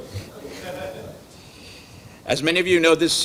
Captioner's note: audience laughing